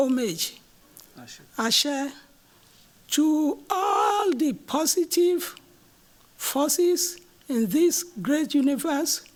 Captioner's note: non-english